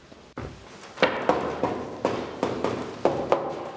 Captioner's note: dull noises